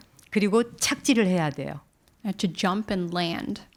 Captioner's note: speaking in Korean